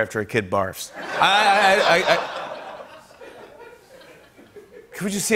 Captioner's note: laughter